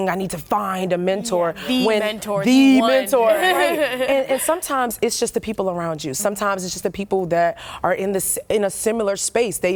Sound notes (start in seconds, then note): 3.4 laughter